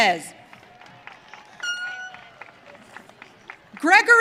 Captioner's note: audience cheering